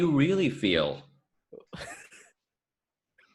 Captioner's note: again, totally not an evil laugh-slash chuckle